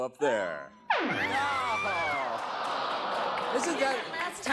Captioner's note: buzzer sounds